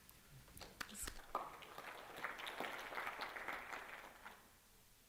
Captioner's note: applause